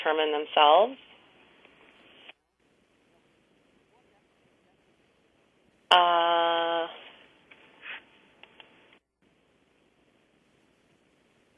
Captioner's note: pause